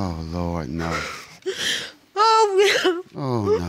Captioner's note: crying